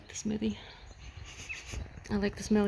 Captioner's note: sniffs air